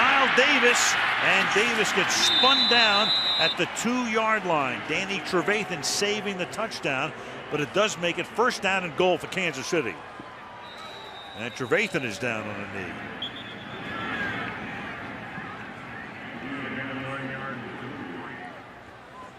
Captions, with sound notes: Here's Knile Davis! And Davis gets spun down at the 2-yard line. Danny Trevathan saving the touchdown, but it does make it first down and goal for Kansas City. And Trevathan is down on the knee. [whistle] [pa announcement]